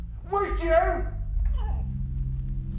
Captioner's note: Mia crying